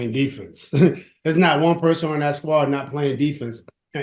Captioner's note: chuckles